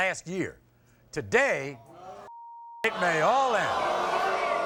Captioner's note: beep